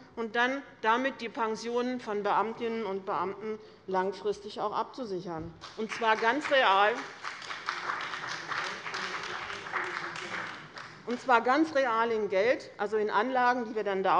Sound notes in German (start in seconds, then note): 5.6 Beifall bei dem BÜNDNIS 90/DIE GRÜNEN und der CDU